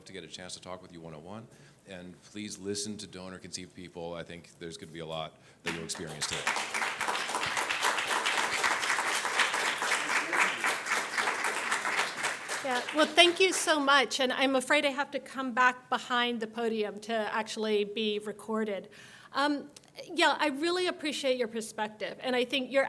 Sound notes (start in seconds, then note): 5.6 audience applauds